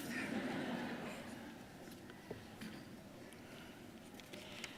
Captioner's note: audience laughing